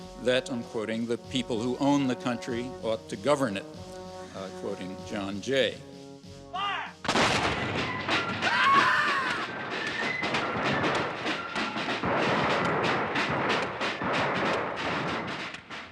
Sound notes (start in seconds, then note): 7.0 gunshots booming; 8.1 fife and drum music; 8.4 woman screaming